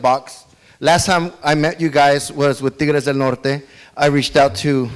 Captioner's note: speaks foreign language